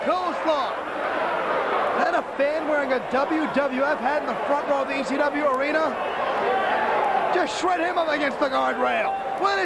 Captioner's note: crowd chatter